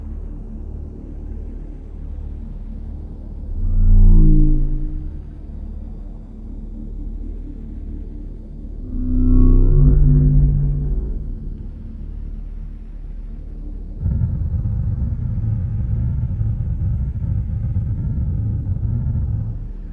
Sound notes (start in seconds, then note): 3.5 spacecraft whirring; 13.9 spacecraft rumbling